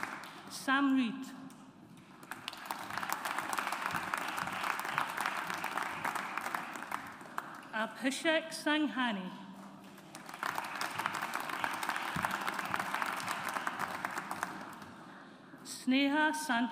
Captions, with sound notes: Samridh. (AUDIENCE APPLAUDS) Abhishek Sanghani. (AUDIENCE APPLAUDS) Sneha Santoshkumar.